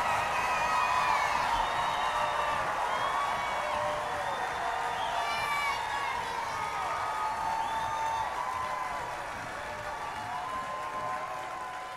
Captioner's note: applause